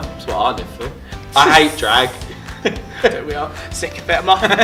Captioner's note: laughing; laughs